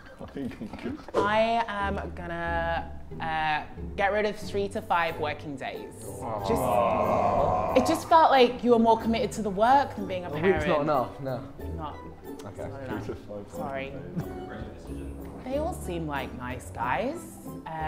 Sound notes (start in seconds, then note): 0.0 Sidemen laugh; 6.0 Sidemen groan